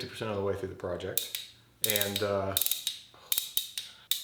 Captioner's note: tool clicking